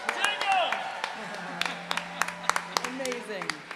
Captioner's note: laughter